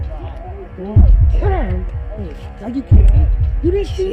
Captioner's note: garbled yelling